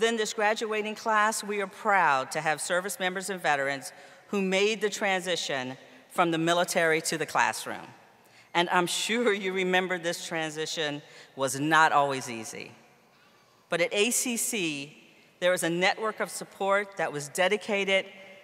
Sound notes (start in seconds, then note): none